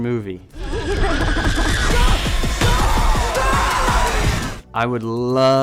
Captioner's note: yelling; laughing creepily